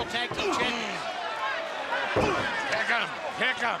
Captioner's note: crowd chatter